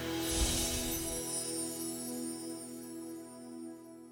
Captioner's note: gently chiming bells; gentle music